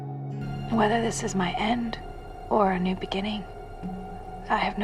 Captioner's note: voiceover